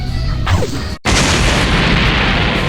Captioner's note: explosion